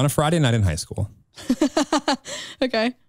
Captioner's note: chuckles